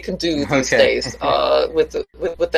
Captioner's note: laughs